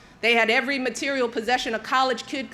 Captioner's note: none